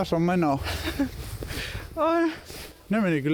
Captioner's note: chuckles